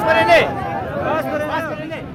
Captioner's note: shouting